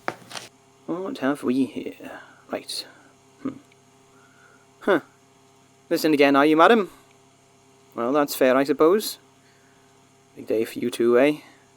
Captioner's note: sudden loud static